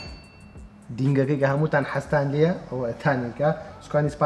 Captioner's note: ding